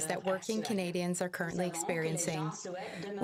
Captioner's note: speaking French